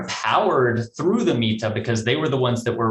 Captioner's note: speaks in foreign language